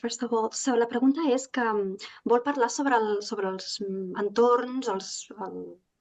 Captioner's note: speaking in Catalan